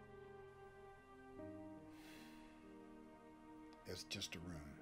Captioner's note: sighs